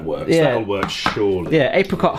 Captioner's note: can clicking